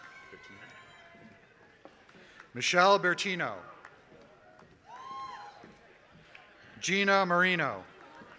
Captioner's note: applause